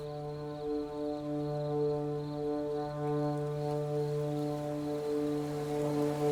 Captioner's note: crickets chirping; eerie, menacing music